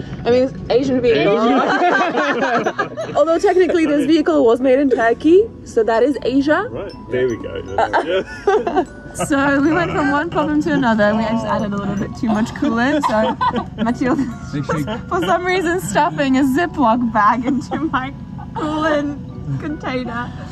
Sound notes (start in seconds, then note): 1.2 all laughing; 8.5 laughing